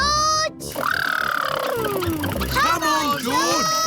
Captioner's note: makes sputtering noises